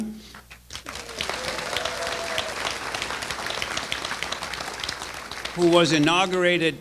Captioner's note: applause